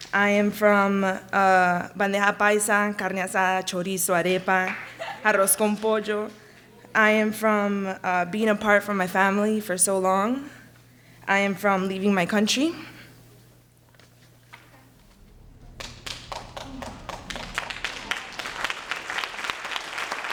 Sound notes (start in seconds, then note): 1.4 speaks in a foreign language; 13.6 chokes back tears; 15.0 audience claps encouragingly